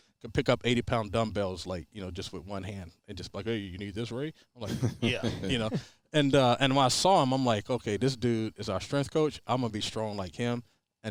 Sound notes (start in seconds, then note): 4.6 chuckles